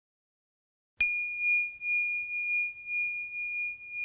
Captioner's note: bell rings